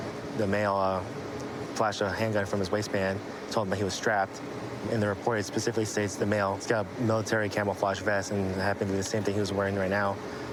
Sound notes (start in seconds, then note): none